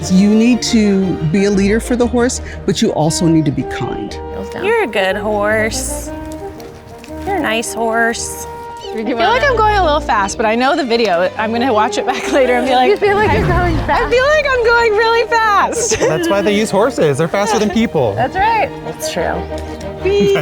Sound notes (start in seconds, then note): 12.0 giggles; 20.0 laughs